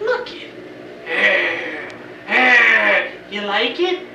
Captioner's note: growls